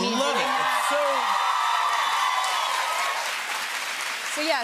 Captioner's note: cheers and applause